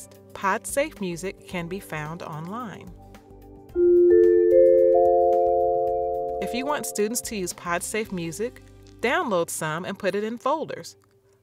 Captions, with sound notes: Podsafe music can be found online. (Chime sound) If you want students to use podsafe music, download some and put it in folders. Also